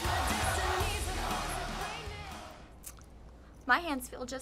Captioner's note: fans chanting